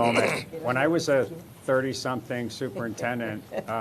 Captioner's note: collective chatter